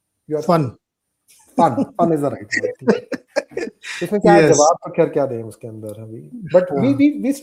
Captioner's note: laughs